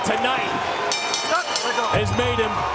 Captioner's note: bell ringing